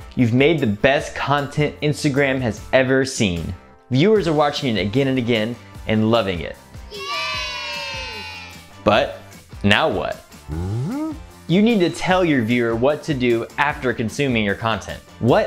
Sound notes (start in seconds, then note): 6.9 crowd cheers; 10.5 voice makes a confused sound